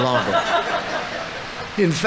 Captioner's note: audience laughing